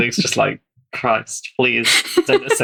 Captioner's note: laughs